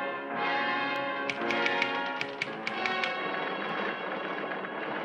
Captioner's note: machine clicking